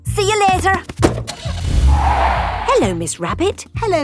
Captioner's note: tires screeching; car starting